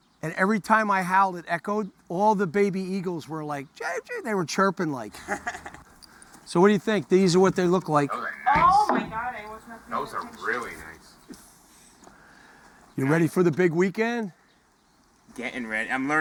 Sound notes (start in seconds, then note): 3.6 chirping